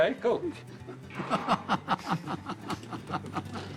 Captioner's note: laughing